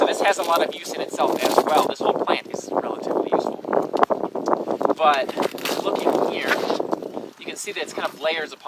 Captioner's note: loud wind across microphone